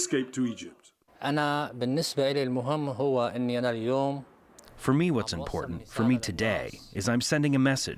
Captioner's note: through translator